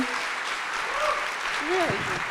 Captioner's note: audience applauding